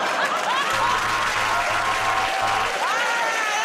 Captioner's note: buzzer; cheers and applause